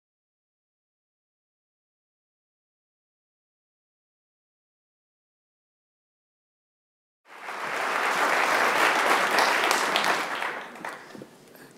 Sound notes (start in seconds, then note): 7.2 audience applauding